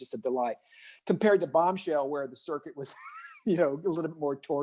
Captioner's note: laughs